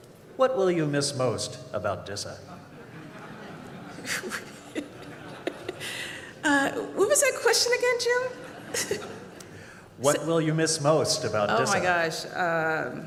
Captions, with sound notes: "What will you miss most about DISA?" ( laughter ) What was the question again, Jim? - What will you miss most about DISA? - Oh my gosh.